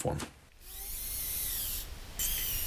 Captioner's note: bat chittering